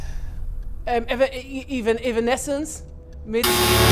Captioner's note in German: stottert